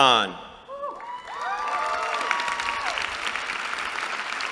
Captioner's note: cheering